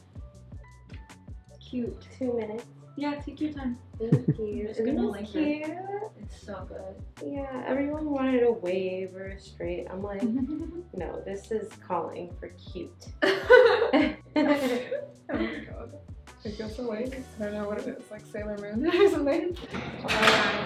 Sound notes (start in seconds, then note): 13.2 laughing